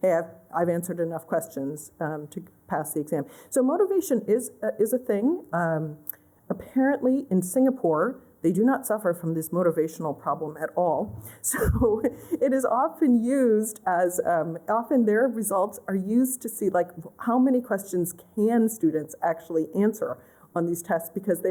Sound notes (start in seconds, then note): 11.5 laughter